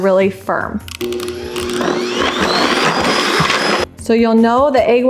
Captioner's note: whirring